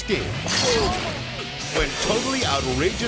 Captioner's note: fence rattles